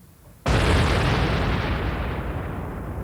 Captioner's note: booming